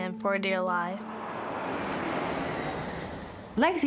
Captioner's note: airplane engine whines